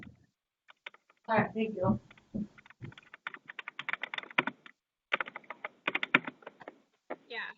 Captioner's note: typing